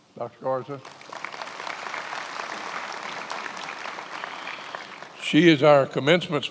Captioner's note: attendees applauding